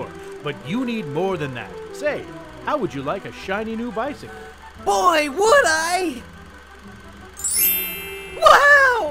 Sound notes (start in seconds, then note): 7.4 heretical sounds of magic